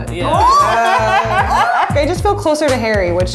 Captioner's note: girls exclaiming and laughing